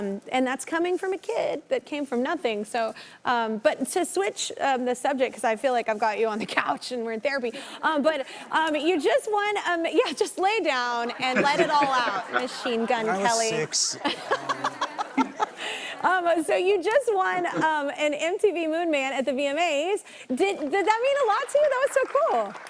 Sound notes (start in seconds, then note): 14.1 laughs